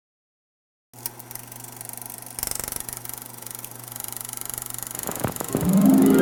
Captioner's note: old film projector